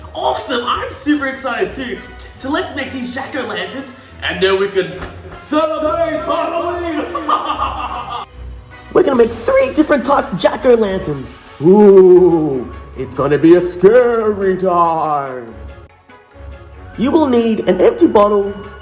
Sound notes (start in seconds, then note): 6.9 evil laugh; 11.6 ghost voice